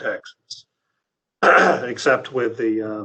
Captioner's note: clears throat